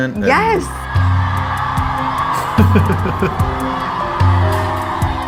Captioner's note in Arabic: تصفيق، هتاف